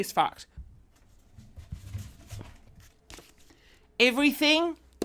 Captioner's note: rustling